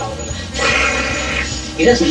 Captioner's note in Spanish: simula sonido de billetes